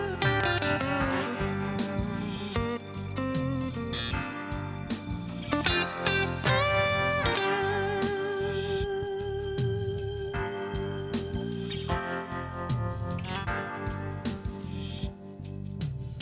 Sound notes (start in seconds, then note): none